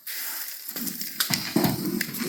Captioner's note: sizzling